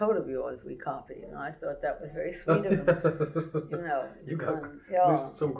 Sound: laughter

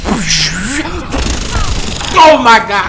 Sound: rapid gunfire

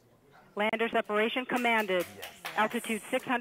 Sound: female Radio Voice

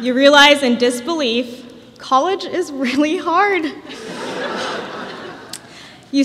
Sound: laughter

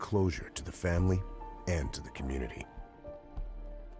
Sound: tranquil music; voiceover

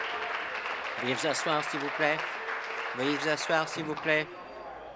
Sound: applause

